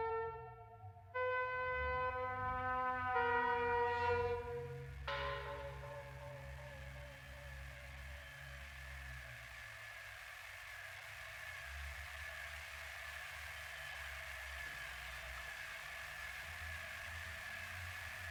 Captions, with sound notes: We killed him. (ominous music) (whirring static)